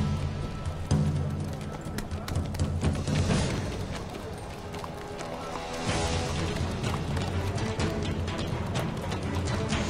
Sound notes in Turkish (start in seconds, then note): 0.0 Nal sesleri; 8.3 Fon müziği